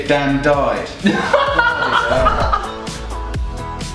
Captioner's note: laughing